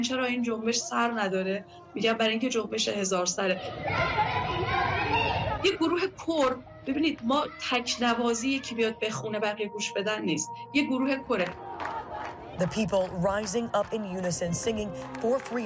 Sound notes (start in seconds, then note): 1.7 speaking non-english